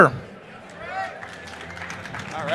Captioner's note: applause